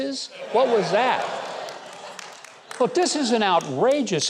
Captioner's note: audience laughter